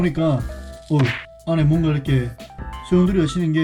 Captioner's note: the water splashed